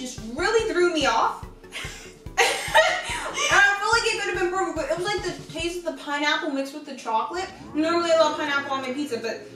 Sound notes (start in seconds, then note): 2.3 laughing